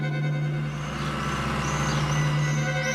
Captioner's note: engine Running